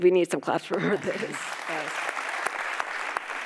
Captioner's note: audience applauding